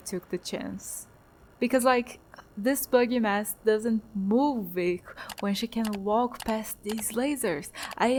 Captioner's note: click click